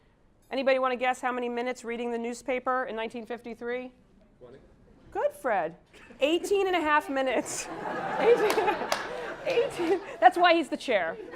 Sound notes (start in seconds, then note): 7.0 laugh